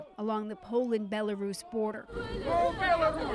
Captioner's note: crowd noise